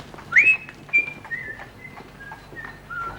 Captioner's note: whistling